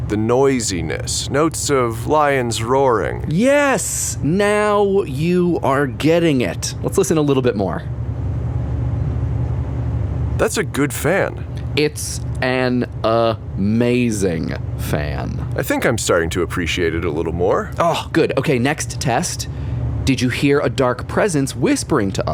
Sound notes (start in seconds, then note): 8.6 the fan continues to play